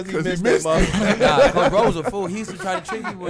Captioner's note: laughs